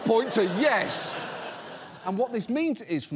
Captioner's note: audience laughs